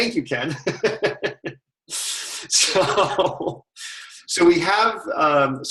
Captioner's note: laughter